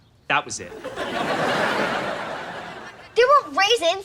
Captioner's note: laughs